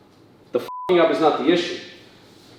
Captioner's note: beep